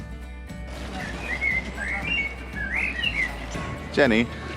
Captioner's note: birds singing